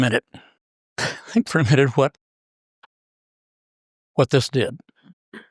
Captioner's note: laugh